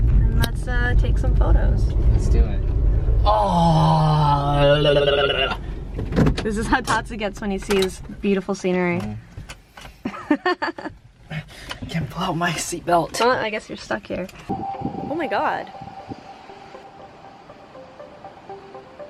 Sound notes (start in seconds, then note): 3.2 yells; 9.9 laughs; 16.1 relaxing music